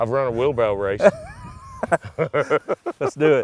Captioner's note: laughing